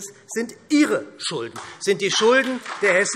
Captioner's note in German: Beifall SPD